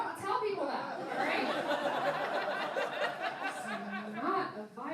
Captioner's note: laughing